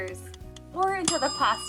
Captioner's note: timer clicking; timer dings